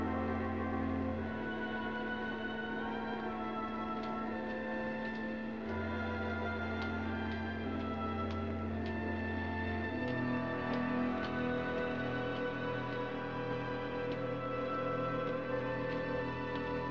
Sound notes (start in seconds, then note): none